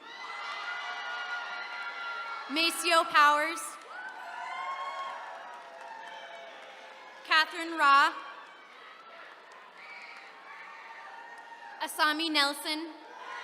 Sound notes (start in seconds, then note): 0.0 attendees cheering; 8.9 attendees cheering